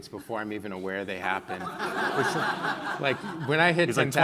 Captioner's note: laughing